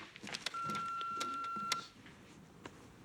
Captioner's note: beeps